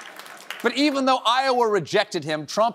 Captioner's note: cheers and applause